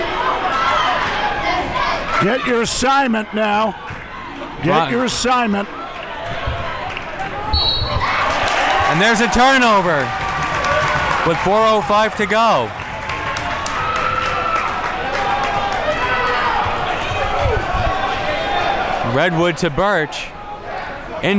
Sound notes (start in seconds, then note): 7.5 whistle blows; 7.7 crowd cheers